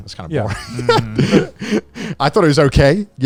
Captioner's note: laughing